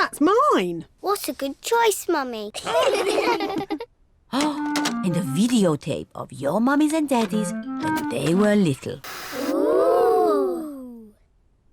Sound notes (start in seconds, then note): 2.6 all laugh